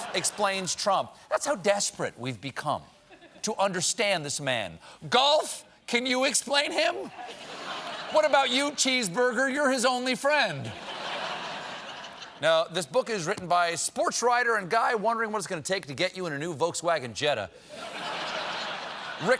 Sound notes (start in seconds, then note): 10.6 laughter